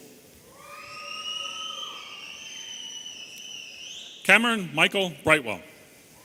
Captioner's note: audience cheering and whistling